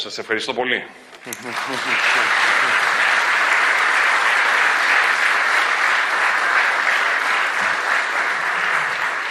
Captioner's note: clap